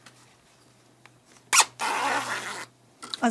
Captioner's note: squeaking